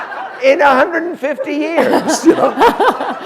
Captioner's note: laughter